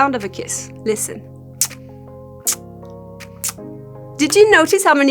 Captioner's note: kissing sound